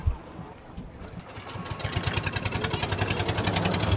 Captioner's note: motor engine rumbling